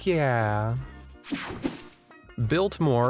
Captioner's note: air whooshing